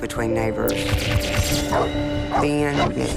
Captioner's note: barks